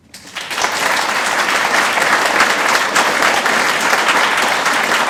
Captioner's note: audience applauds